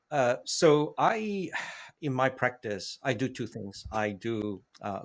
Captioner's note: sighs